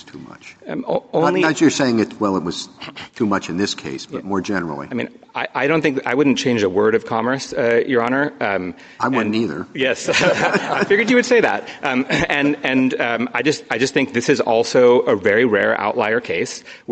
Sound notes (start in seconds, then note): 10.0 laughter